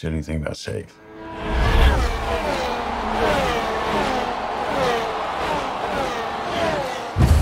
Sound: cars speed

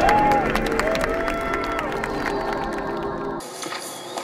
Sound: applause

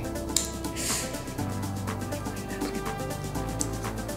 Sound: snapping sound

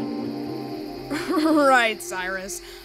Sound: laughing

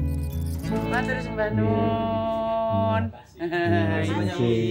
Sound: laugh; speaking Javanese

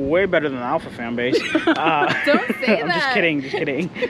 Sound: laughing

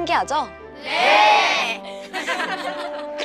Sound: giggling

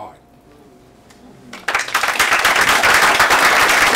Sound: applause

